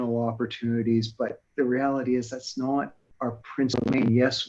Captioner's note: audio warbles